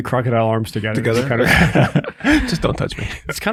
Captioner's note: group laughs